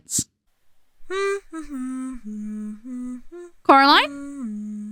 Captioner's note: humming a tune; humming stops